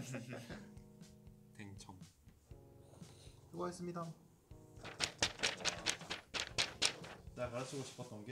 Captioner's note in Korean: 종이 펄럭이는 소리